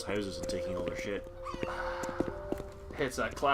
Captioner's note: sighs nostalgically